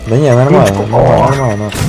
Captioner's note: excited sounds